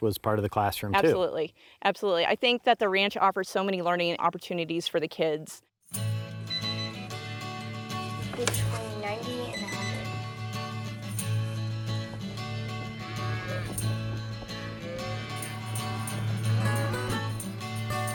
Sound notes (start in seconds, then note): 6.4 beeping; 12.5 cow mooing